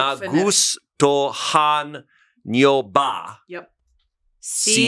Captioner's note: speaks foreign language